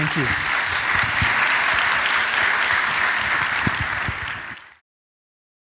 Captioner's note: applause